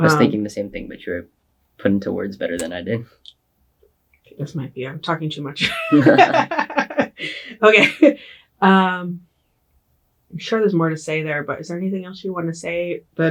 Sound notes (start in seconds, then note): 5.6 laughs